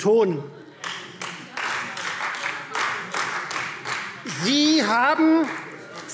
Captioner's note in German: Beifall Freie Demokraten